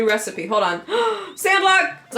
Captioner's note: gasp